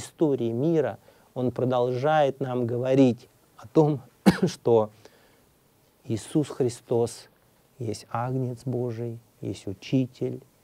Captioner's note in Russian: кашлянул